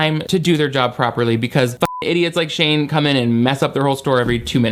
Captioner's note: beep